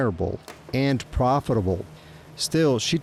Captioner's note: gear clacking